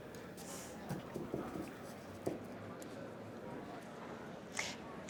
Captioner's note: background chatter